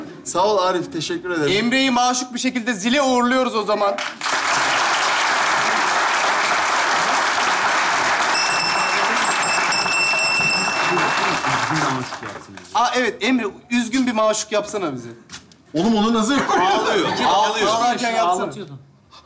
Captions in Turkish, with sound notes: Sağ ol Arif teşekkür ederim Emre'yi maşuk bi şekilde zile uğurluyoruz o zaman (Zil sesi) Aa evet Emre üzgün bi maşuk yapsana bize Oğlum onu nasıl yapayım -Ağlarken yapsana